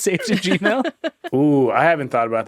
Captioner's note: all laughing